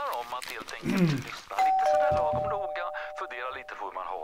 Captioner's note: door bell